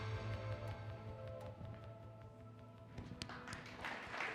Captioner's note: audience applauds